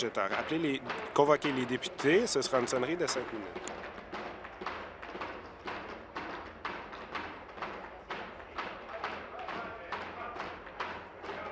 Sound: tapping of desks

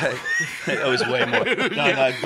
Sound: laughs

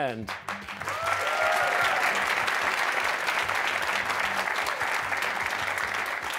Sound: cheers and applause

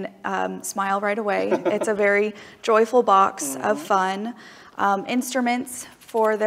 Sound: laughs

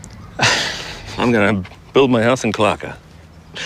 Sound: chuckles

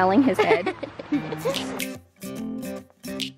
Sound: laughs; lighthearted guitar music

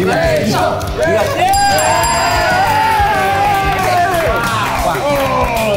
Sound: all cheer loudly

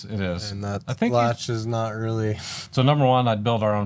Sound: chuckles

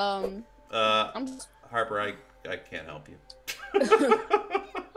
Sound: laughing

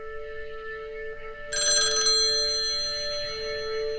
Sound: phone ringing

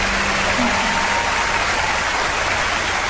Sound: applause

